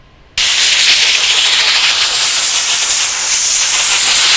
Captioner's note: air pressure pumping